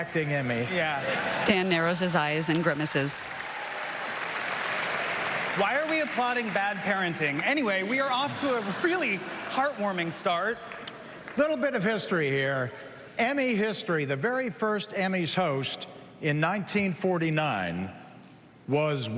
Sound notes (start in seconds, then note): 9.0 applause